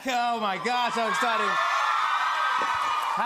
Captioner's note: cheering